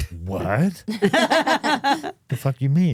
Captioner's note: Steph and Elyse laughing